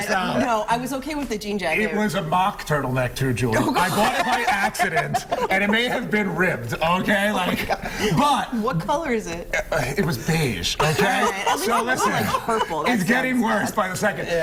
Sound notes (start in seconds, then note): 1.2 laughter